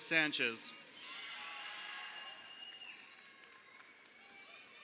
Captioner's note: crowd cheering